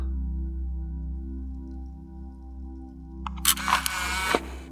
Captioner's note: camera rustling